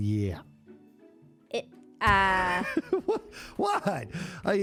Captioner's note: laughs